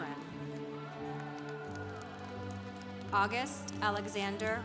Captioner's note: congregation applauding